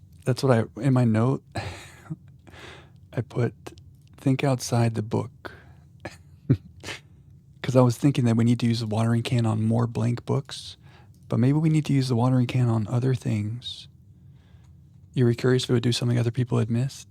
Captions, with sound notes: That's what I, in my note, I put think outside the book. (chuckles) Because I was thinking that we need to use the watering can on more blank books, but maybe we need to use the watering can on other things. You were curious if it would do something other people had missed?